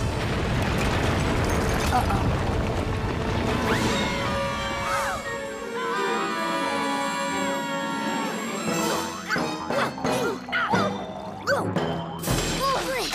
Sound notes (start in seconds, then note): 3.7 screaming; 8.5 groaning